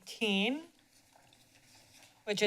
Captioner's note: papers rusting